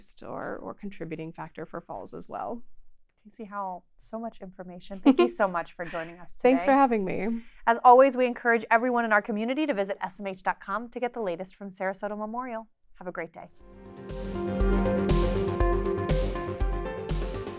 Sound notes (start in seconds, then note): 5.0 laughs; 13.6 bright contemporary music